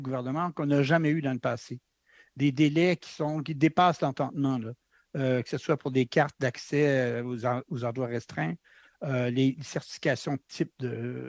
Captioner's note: speaking French